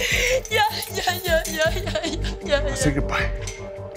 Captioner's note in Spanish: Sollozos